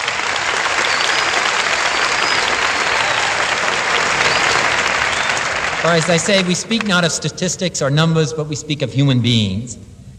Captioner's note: applause